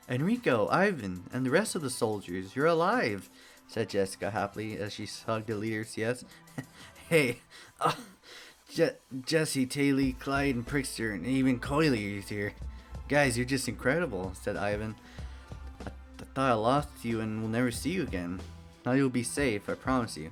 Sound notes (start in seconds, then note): 7.6 cough